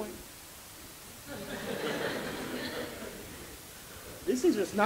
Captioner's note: laughter